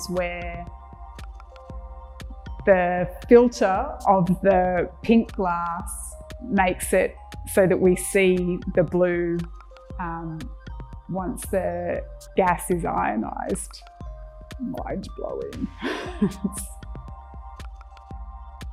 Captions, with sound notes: where the filter of the pink glass makes it so that we see the blue once the gas is ionized. Mind-blowing. (laughs)